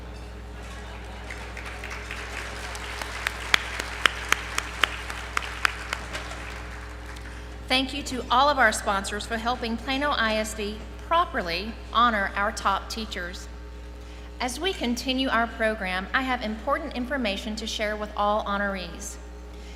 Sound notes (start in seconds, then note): 0.6 applause